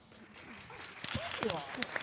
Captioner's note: audience claps